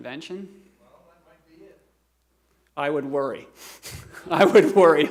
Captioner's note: laughter